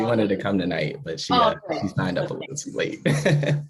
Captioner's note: laughs